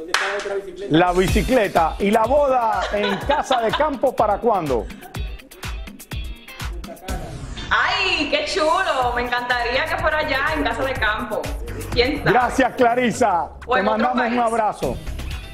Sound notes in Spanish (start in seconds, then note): 4.6 risas